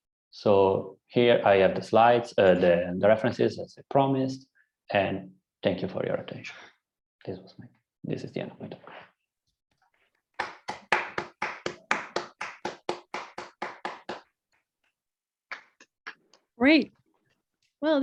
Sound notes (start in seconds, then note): 10.3 applause